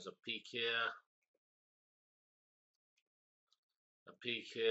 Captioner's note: pause